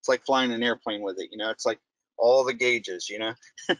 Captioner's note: laughing